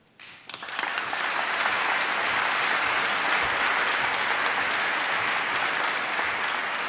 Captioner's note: applause